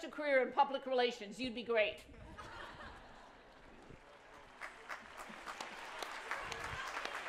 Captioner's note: applause